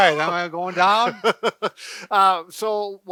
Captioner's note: laughs